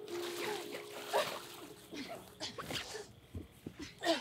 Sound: splashing and gasping

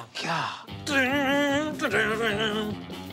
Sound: mimics guitar

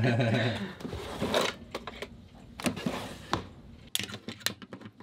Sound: laughing; drawer shushing

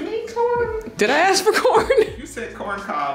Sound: laughing

